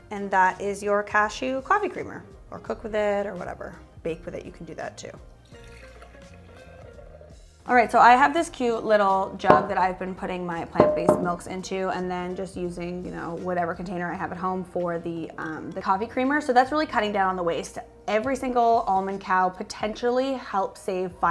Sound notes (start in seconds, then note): 5.8 cashew milk sloshes